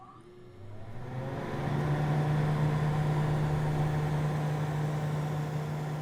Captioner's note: air vent blowing